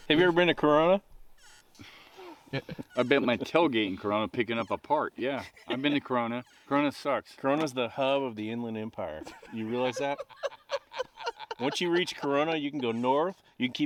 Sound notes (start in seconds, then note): 9.1 all laughing